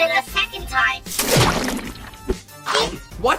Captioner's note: upchucks then eats again